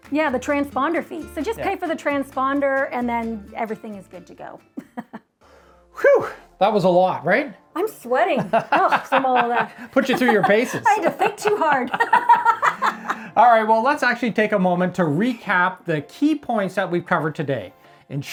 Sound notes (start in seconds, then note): 4.8 chuckling; 12.1 both chuckling